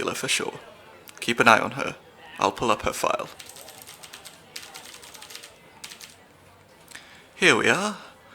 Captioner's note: typing sounds